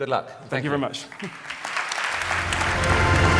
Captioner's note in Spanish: Aplausos